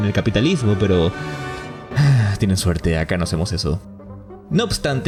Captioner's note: sigh